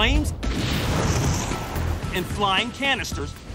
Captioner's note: explosion